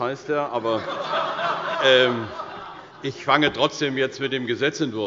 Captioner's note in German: Heiterkeit bei der CDU